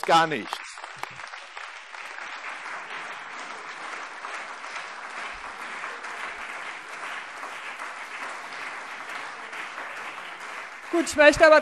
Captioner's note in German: Beifall CDU und BÜNDNIS 90/DIE GRÜNEN